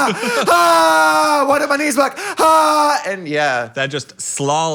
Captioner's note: screams